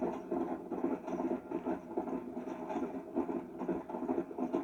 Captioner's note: sounds of galloping horse